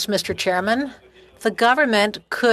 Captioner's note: speaking French